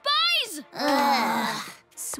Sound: everyone groaning

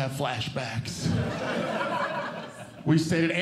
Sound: audience Laughing

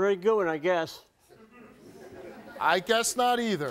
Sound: audience members laugh

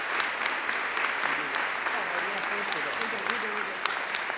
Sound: audience applauding; speaker muffled by applause

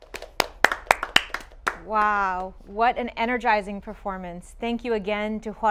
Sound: applause

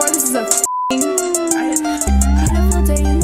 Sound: beep

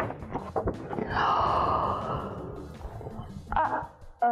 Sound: gasps

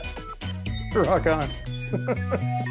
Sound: laughing

